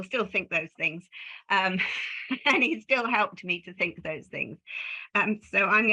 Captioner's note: laughs